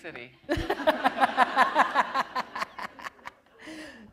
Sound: laughter

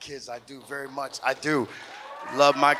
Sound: audience cheers

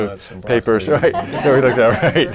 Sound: laughter

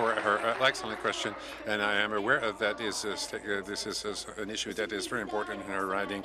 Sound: applause

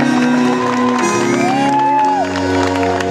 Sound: applaus

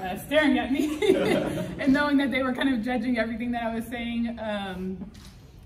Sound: people laughing

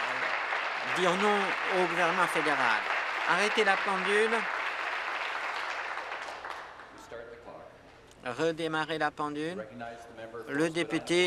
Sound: applause

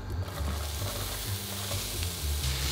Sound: onions sizzling

